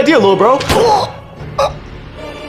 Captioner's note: gunshot